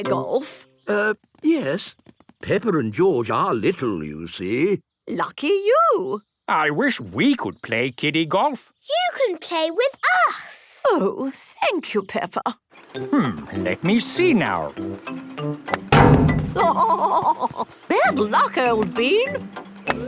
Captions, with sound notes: - Err... yes. Peppa and George are little, you see. - Lucky you! - I wish we could play kiddie golf! - You can play with us! - Oh, thank you, Peppa! - Let me see now. (laughing) - Bad luck, old bean!